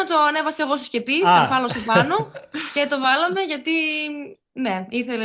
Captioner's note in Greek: γέλια